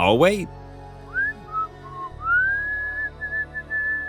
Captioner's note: whistling